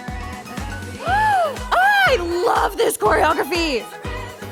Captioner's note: gasps